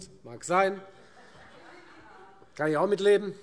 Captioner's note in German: Heiterkeit